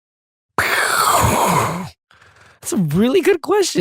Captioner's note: makes explosion noises